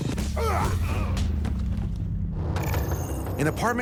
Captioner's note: men grunting